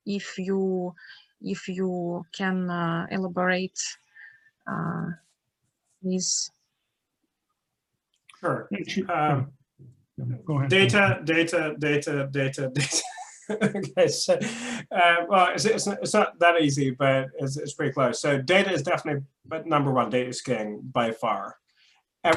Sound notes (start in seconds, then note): 12.8 laughing